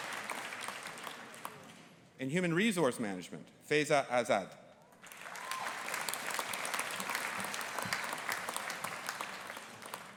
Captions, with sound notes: In Human Resource Management, Faiza Azad. (AUDIENCE APPLAUDING)